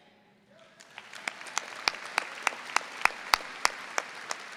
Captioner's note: audience applauds